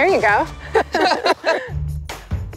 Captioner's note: laughter